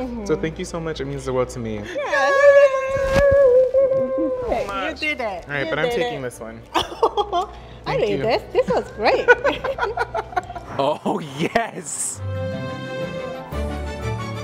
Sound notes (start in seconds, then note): 6.8 laughs; 9.1 laughing; 9.1 laughs; 11.9 light music